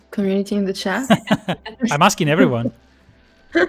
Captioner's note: laughs